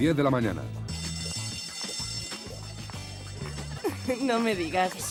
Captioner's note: school bell ringing